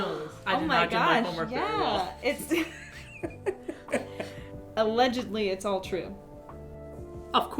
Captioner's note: laughter